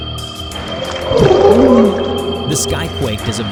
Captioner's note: demonic gurgle